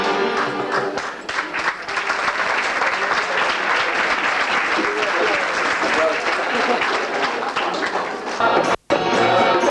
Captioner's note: applause